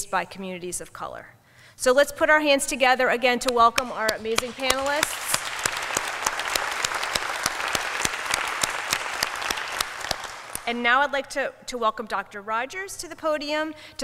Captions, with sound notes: by communities of color. So let's put our hands together again to welcome our amazing panelists. [APPLAUSE] And now, I'd like to welcome Dr. Rodgers to the podium